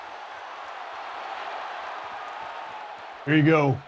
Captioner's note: crowd continues cheering